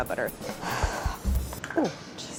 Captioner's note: sighs